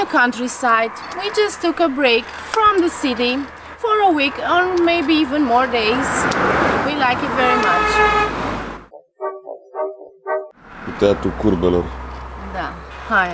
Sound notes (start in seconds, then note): 7.2 horns